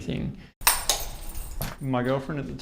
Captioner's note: door unlocking